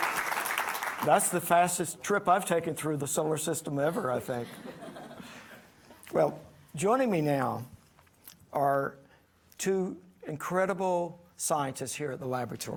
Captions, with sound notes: >> That's the fastest trip I've taken through the solar system ever, I think. [audience laughing] Well, joining me now are two incredible scientists here at the laboratory,